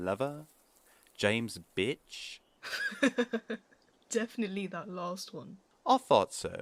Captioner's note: James laughs